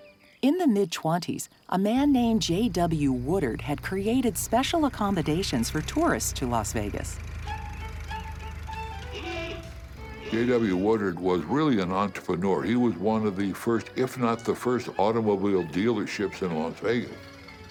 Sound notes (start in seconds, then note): 9.0 car horn honks